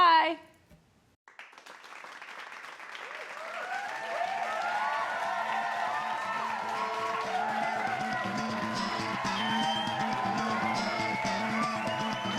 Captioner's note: applause